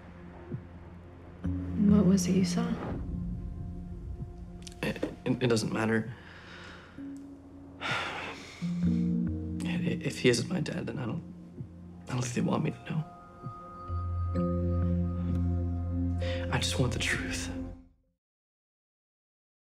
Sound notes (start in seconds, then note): 7.8 sighs